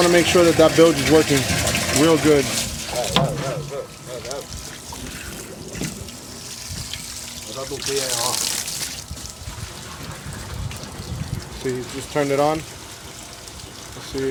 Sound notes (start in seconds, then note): 7.3 running water